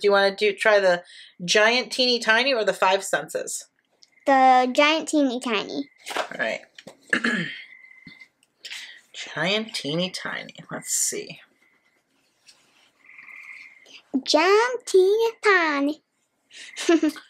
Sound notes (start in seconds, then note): 7.0 clears throat; 16.6 chuckles